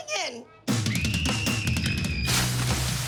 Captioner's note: screaming